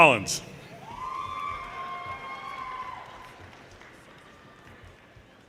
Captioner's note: audience cheers and applause